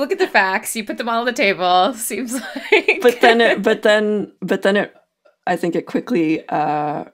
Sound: laughs

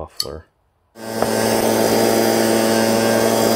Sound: whirs

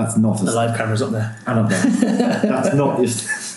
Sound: laughing

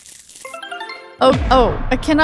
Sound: magical warbling

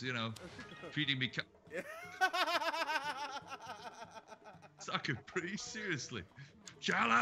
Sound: laugh

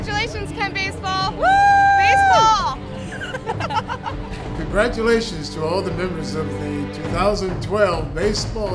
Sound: giggles

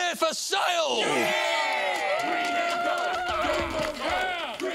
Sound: cheering

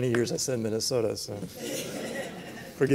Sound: laughter

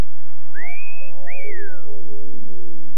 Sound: cat call whistle

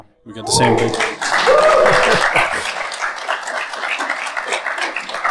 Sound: audience claps

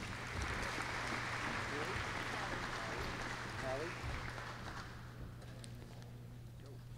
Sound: applause

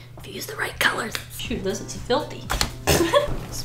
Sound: laughs

